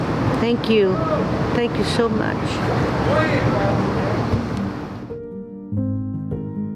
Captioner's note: vehicle droning; gentle music continues